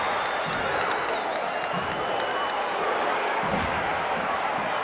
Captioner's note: audience cheering